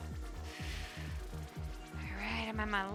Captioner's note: exhaling deeply